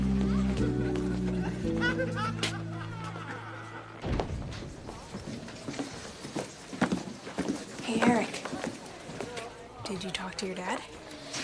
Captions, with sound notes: (man laughs) (door creaks) - Hey Eric. Did you talk to your dad?